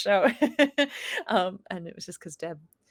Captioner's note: laughs